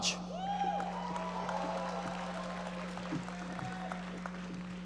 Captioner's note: audience applauding